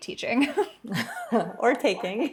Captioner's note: laughter